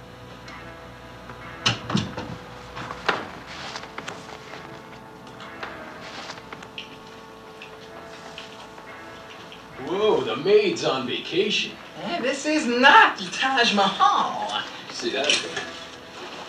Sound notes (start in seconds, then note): 1.6 door closing